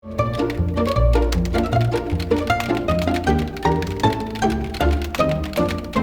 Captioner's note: buoyant music; keys tapping